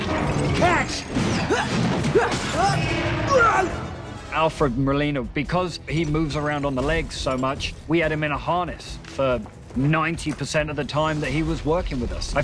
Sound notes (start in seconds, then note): 1.8 grunting